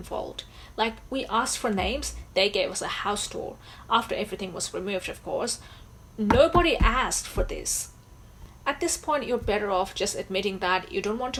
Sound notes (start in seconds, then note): none